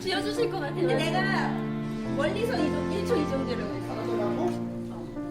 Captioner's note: speaks Korean